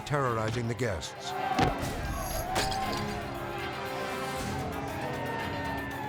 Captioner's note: bats pounding; group chattering loudly